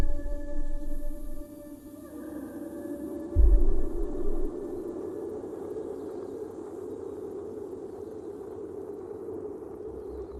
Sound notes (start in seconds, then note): none